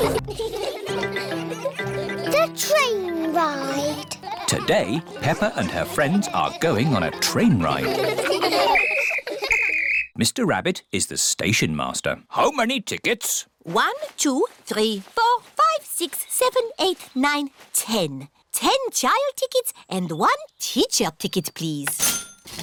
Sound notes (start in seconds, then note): 0.0 laughter; 8.7 blows whistle; 21.9 cash register dings